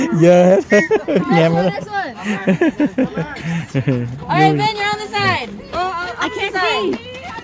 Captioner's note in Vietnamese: Tiếng cười